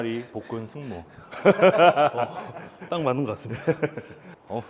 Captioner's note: laughs